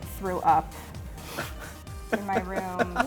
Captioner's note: laughs